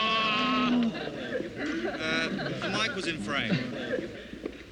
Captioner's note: crew Laughing